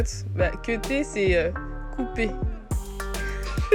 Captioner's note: in french